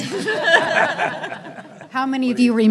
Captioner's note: everyone laughing